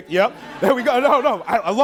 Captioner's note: laughing